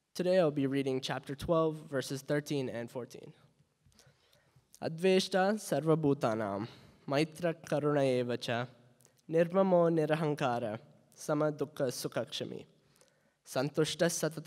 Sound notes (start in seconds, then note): 5.1 speaking in Hindi